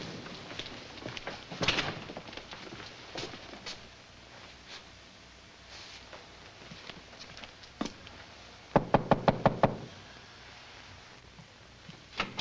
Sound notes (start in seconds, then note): 1.9 door bangs shut; 8.7 knocks on door